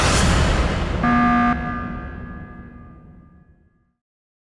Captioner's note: alarm sounds